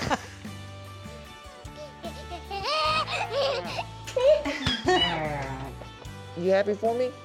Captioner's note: giggling